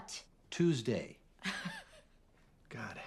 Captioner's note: laughs